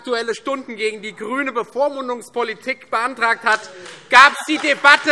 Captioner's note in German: Beifall Freie Demokraten